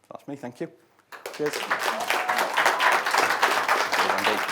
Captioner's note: audience applauding